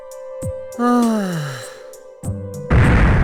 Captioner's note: sigh